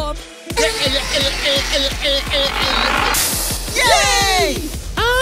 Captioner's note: Extinguishing sound plays as Firey dies; Firey screaming